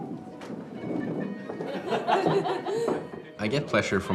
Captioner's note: diners laughing